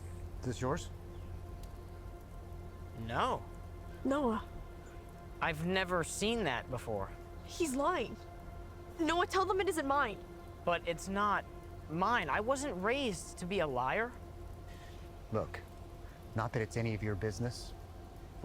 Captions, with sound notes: - Is this yours? - No. - Noah. - I've never seen that before. - He's lying. Noah, tell them it isn't mine. - But it's not mine. I wasn't raised to be a liar. (Kaylee breathes uneasily) - Look, not that it's any of your business,